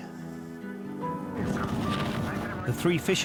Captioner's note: gentle music; water whooshing